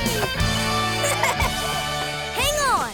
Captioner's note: laughing